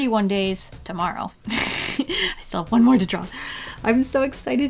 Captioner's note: laughs